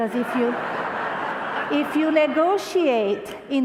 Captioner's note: crowd applause